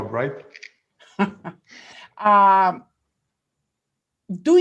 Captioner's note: laughs